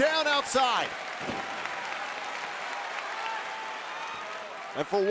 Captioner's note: crowd claps